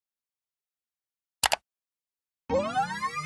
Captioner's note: mouse click